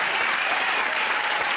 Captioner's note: cheers and applause